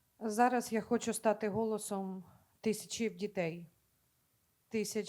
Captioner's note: speaking Ukrainian